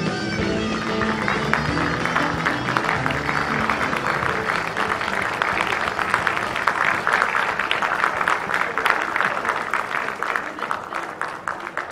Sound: applause

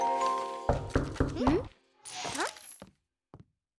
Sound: knocking

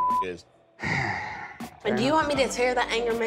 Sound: beep; sighs

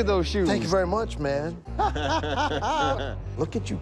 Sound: laughter

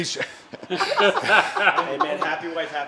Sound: laughing

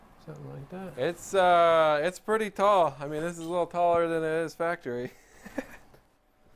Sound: laughs

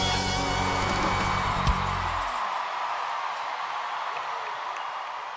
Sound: cheering and applause

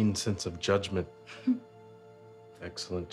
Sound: chuckles

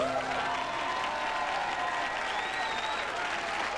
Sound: cheers

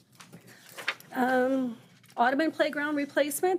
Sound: page fluttering

